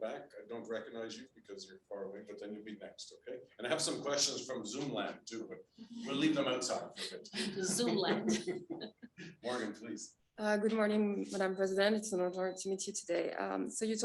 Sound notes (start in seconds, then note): 7.0 Robert and Vjosa chuckling; 7.4 audience chuckling